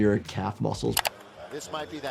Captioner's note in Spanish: clics del ratón